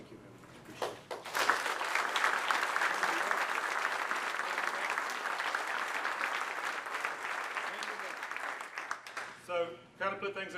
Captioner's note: applause